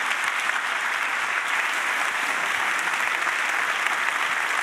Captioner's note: audience applauding